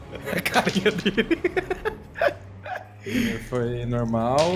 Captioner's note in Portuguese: Risada